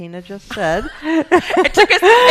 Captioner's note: laughing